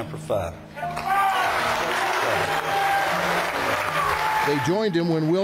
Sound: audience cheering

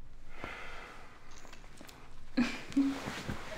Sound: Adam sighing

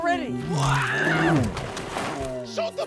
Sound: screams

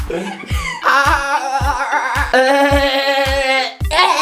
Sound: makes Dolphin Noise

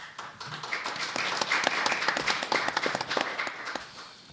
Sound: audience applauding

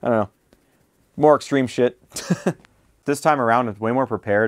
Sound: laughs

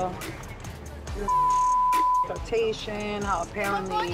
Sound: beep

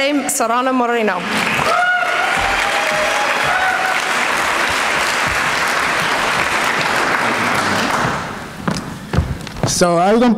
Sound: applause

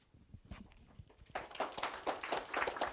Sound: applause

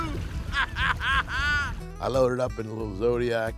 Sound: laughter

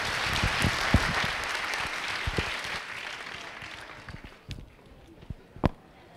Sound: clapping

